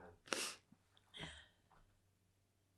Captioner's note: sniffing